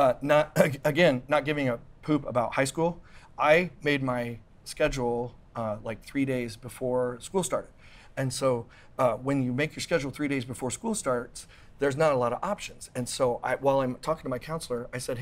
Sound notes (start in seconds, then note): none